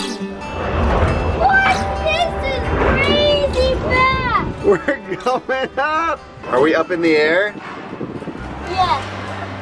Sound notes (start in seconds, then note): 4.6 chuckles